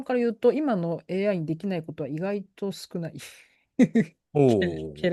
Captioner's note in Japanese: 笑い